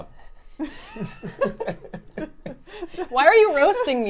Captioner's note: laughs